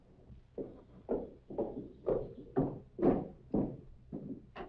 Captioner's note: footsteps